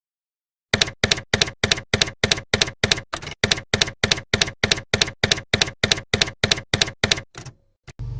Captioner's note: typewriter keys clacking